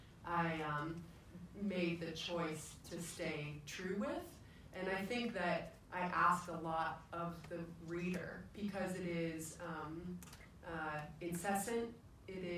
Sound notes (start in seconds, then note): none